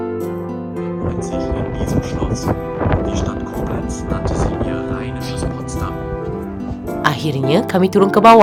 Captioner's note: public announcement